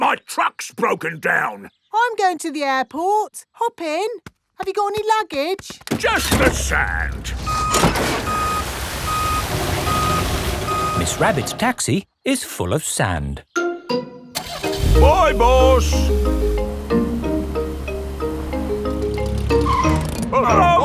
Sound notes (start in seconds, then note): 7.8 beeping; 14.3 car engine starts; 19.6 brakes squeal